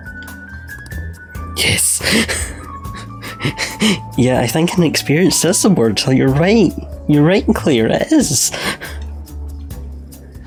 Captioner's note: laughs